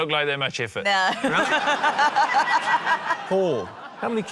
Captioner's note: laughter